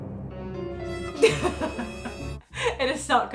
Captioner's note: laughing